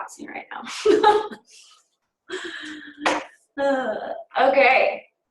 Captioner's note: laughter